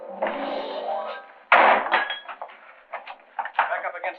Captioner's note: thudding, clanking